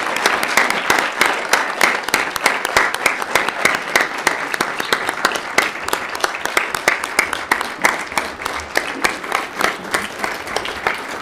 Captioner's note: applause